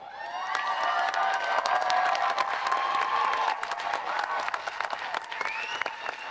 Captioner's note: audience applauding and cheering